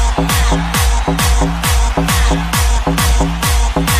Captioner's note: applause